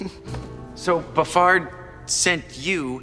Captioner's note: chuckles